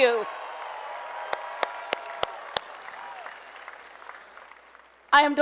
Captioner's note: applause and Cheering